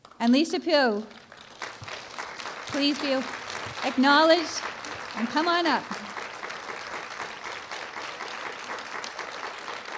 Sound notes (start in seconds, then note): 1.2 applause; 6.2 applause